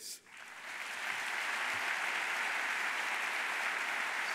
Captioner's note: audience applauding